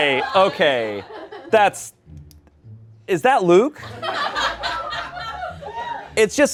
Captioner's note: laughter